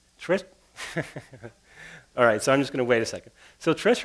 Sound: laughs

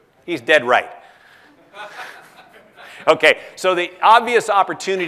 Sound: laugh

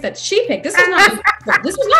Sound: laughing

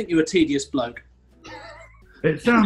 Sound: sniggering

